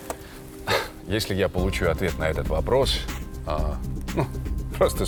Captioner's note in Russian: выдох